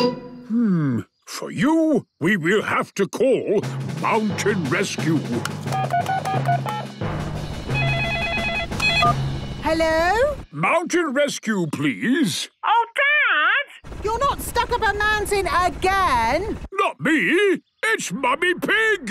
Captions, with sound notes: - Hmm.... For you, we will have to call Mountain Rescue! (phone beeping) (phone ringing) - Hello? - Mountain Rescue, please. - Oh, Dad! You're not stuck up a mountain again! - Not me. It's Mummy Pig!